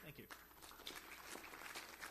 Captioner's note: applause